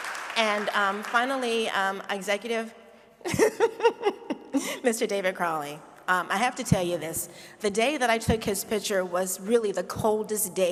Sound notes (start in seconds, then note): 3.2 laughs